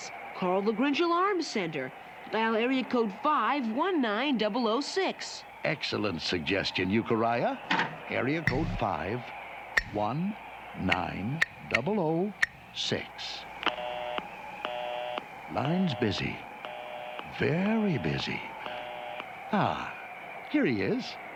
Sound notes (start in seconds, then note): 13.6 busy tone over phone